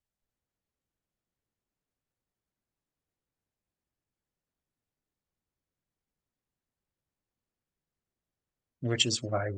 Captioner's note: pause